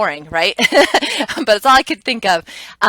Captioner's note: laughs